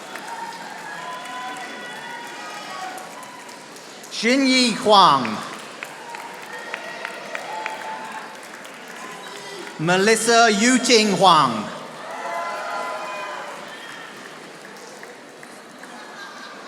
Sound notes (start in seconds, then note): 0.3 audience applauding; 6.0 audience applauding; 11.7 audience applauding